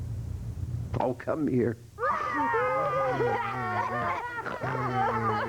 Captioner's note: sobbing